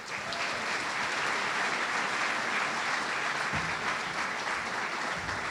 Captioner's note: audience applauding and cheering